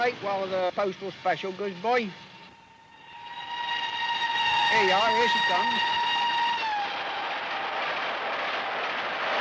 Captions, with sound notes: while the Postal Special goes by. (train wheels scraping) Here you are, here she comes.